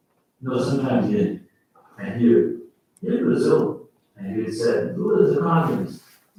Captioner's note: faintly speaking